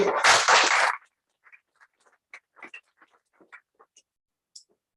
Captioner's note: applause